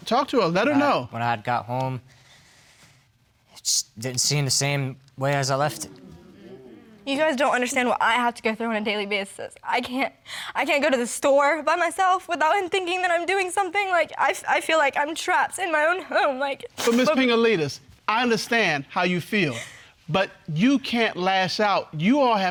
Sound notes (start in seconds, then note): 5.6 audience exclaiming; 10.2 voice shaking; 14.7 stammering